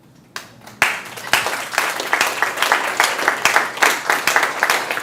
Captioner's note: students applauding